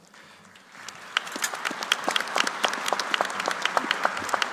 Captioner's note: applause